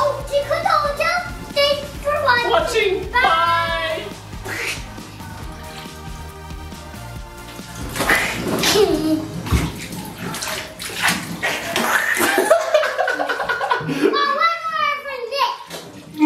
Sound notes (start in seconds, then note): 4.4 dad splats; 11.8 splats; 12.0 laughs